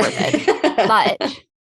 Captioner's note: laughing